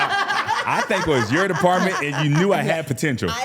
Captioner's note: laughing